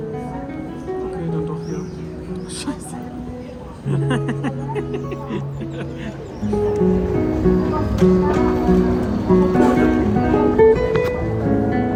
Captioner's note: laughter